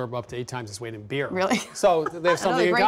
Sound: laughs

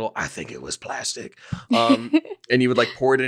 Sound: laughing

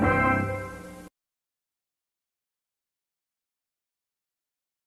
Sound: silence

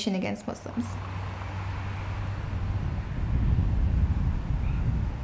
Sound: traffic sounds

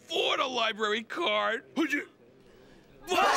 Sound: gasps

